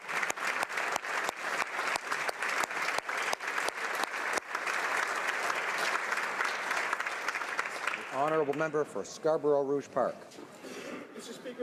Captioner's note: applause